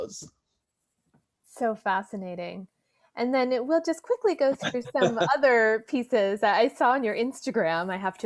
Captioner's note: laughs